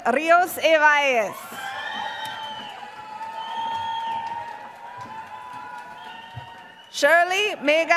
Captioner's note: applause